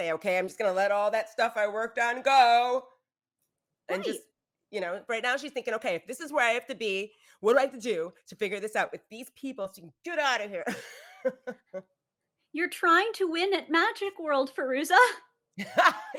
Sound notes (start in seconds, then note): 10.7 laughs